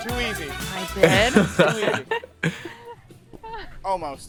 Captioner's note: podcasters chuckling